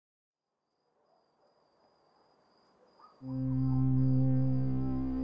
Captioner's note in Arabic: صراصير تغرد; موسيقى درامية